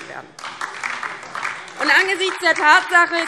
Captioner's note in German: Beifall DIE LINKE und SPD